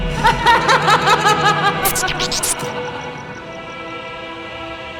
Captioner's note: laughs evilly; dramatic music